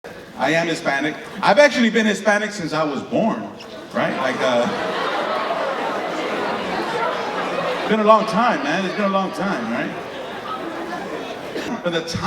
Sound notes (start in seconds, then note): 5.3 audience laughing